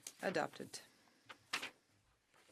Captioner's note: speaking in French